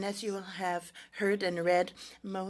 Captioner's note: speaking French